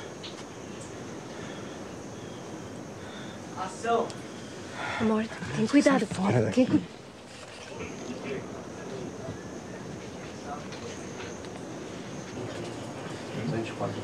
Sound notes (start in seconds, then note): 3.6 speaking foreign language; 5.5 both speaking foreign language